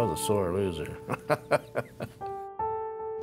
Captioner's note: laughs